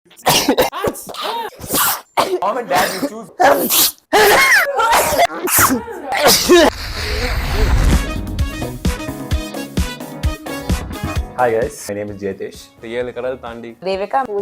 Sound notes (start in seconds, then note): 0.0 sneezing intro's; 6.0 everyone sneezes